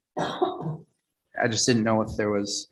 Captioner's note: female coughs